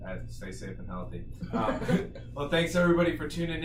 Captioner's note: laughing